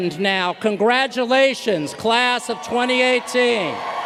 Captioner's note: applause